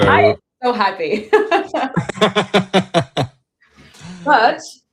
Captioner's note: laughter